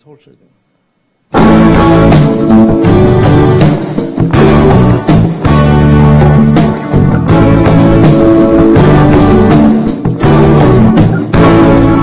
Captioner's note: audio interruption